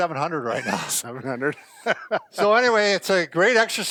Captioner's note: laughs